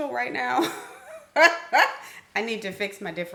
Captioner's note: laughs